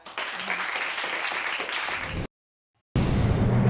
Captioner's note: audience applauding